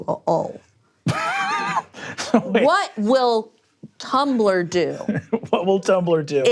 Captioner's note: laughing